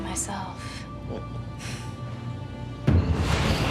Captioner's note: chuckles